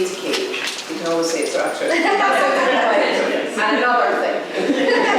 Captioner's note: laughter